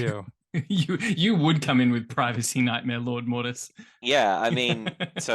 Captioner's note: laughs